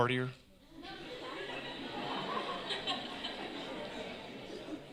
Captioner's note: laughter